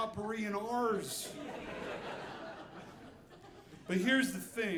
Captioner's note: audience laughing